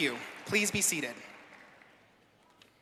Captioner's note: applause